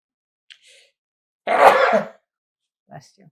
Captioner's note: sneezing